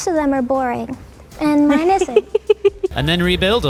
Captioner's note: laughs